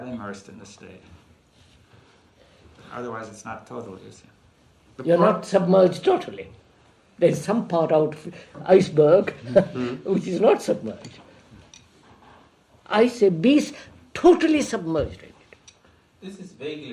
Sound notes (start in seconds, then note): 9.4 laughs